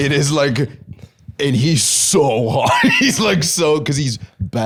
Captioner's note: laughs